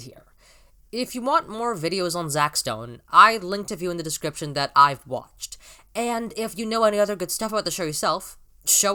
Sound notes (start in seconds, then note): 0.3 quick inwards breath; 5.6 inwards breath though teeth...?